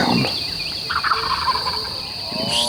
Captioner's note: turkey gobbling